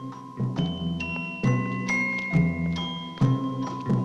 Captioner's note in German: Es klingelt an der Tür